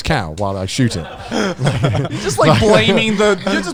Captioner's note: all laughing